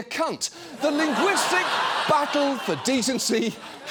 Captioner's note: studio audience laughs